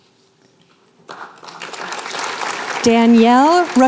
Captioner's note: applause